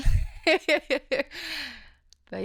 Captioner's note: laughing